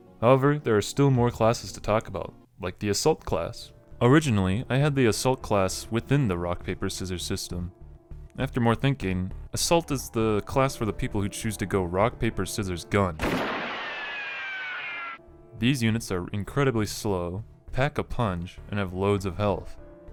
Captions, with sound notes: However, there are more classes to talk about. Like the Assault class! Originally, I had the Assault class within the Rock-Paper-Scissors system. After more thinking, Assault is the class for people who choose to go Rock-Paper-Scissors-GUN. [Gunshot] These units are incredibly slow, pack a punch, and have loads of health.